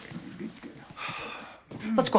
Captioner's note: sighs